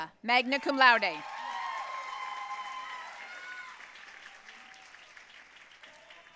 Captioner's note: audience cheering and applauding